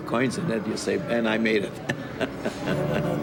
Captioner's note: laughs; blues song